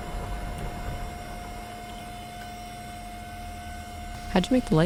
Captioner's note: suddenly, no noise or thunder Only the computer fan